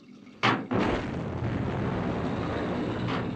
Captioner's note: gunshot, explosion